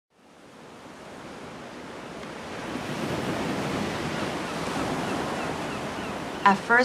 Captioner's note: surf rustling